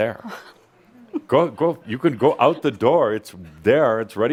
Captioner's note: giggles